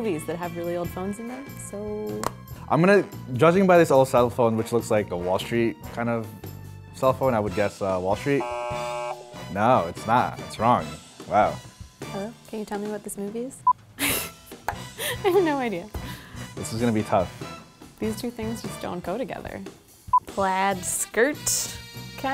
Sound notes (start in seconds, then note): 8.4 buzzes; 13.7 laughs